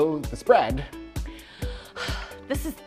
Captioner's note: heaves